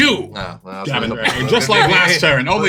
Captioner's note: laughs